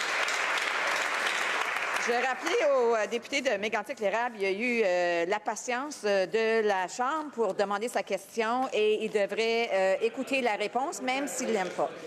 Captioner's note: some Applause